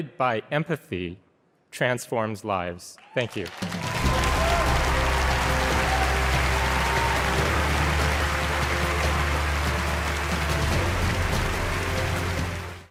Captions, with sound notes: by empathy transforms lives, thank you. (audience applauding) (dramatic music)